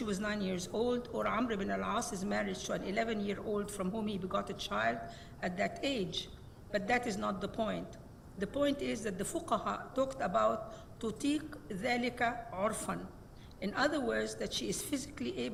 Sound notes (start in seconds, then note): 9.5 speaks Arabic